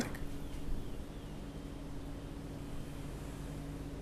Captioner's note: chirping